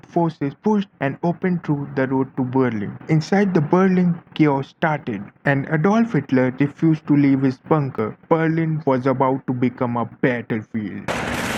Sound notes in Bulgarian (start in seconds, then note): 11.0 Аплодисменти